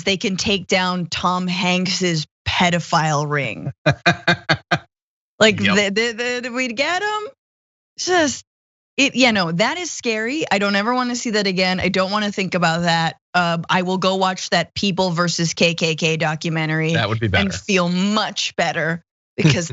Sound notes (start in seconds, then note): 3.7 laugh